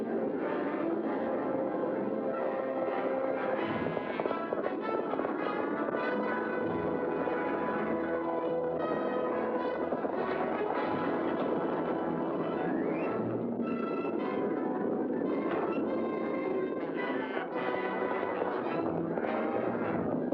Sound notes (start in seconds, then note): 0.1 dramatic music; 0.1 hooves pounding; 12.1 dramatic music; 15.4 crack; 17.2 dramatic music; 17.2 hooves pounding